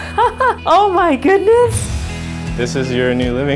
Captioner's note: laughs